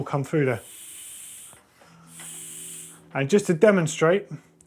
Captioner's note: air hissing